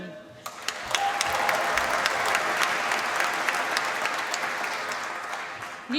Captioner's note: applause